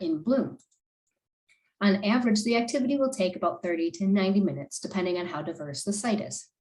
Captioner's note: click